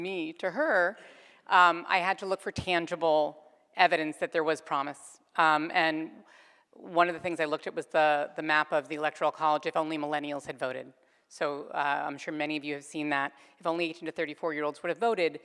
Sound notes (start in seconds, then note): none